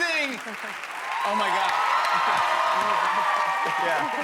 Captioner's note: cheers and applause